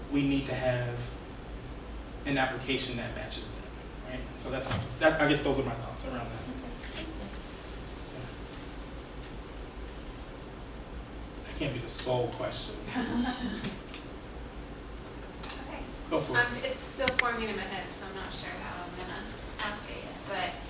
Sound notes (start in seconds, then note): 13.0 audience laughing